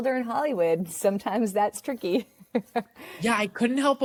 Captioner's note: chuckles